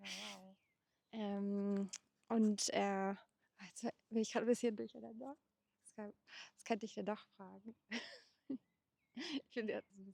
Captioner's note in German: gelächter